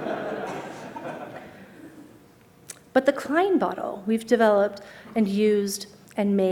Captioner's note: laughter